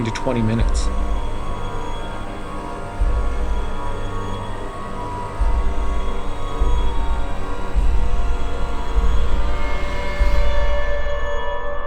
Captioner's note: siren